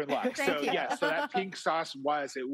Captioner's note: hosts laughing